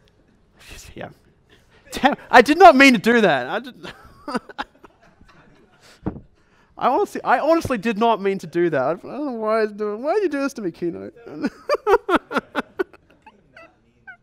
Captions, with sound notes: Yeah, I did not mean to do that! (laughs) I honestly did not mean to do that. Why are you doing this to me keynote? (laughs)